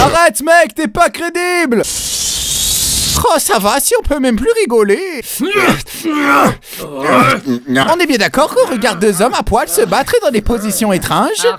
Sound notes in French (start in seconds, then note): 6.0 Gémissements gutturaux et tendancieux